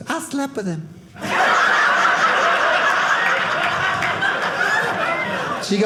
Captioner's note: audience laughing